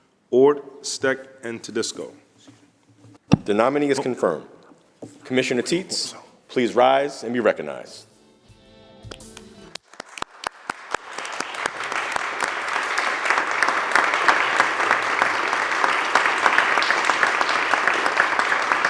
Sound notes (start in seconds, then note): 9.7 applause